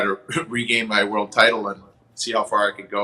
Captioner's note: chuckles